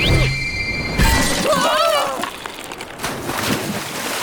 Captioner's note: candle and silver spoon scream; splashes